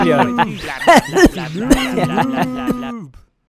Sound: cough

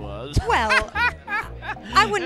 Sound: Joker laughing

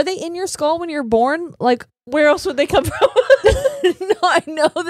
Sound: laughing

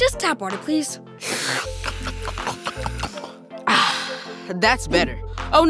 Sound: guzzling noises

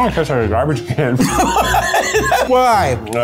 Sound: laughing

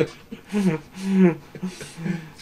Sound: laughs

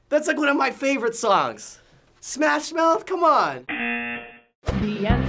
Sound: buzzer

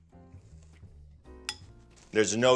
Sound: spoon clinking

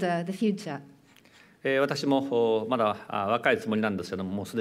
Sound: speaking japanese

